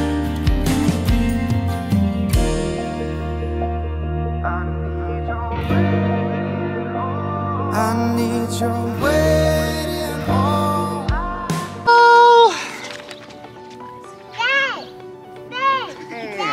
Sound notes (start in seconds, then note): 11.9 shrieks gleefully